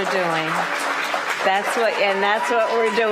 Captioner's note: applause